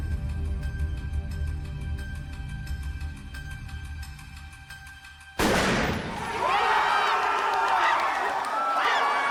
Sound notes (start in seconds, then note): 5.4 gun blast; 6.1 cheers and applause